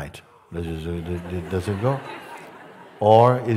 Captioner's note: Lachen